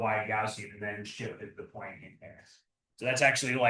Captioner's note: speaks faintly